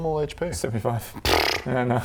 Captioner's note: pfffpt